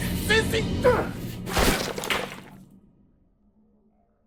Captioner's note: clattering